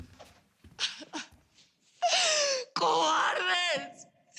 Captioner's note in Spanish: Sollozos